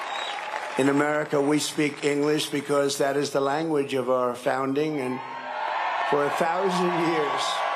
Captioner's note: cheering and applause